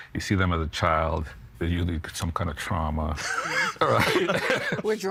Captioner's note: laughing